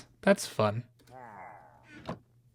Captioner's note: Pillager murmurs